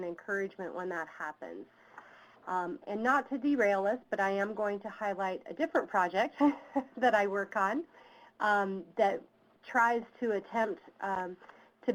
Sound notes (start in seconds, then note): 6.7 laughs